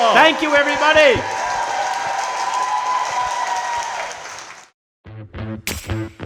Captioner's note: crowd clapping & cheering; upbeat outro music